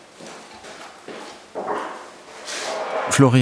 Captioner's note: rumbling